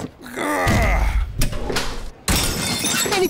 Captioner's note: grunts; crashes